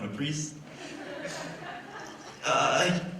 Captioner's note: laughter